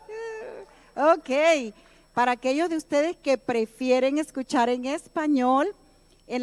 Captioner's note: speaking in native tongue